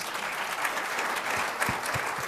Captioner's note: applause